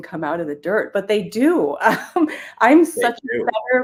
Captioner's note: chuckles